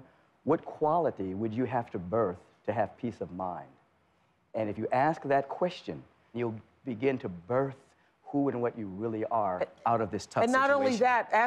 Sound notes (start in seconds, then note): none